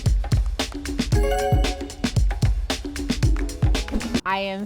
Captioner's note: upbeat music continues; bell dings